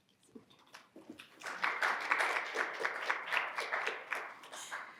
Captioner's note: audience clapping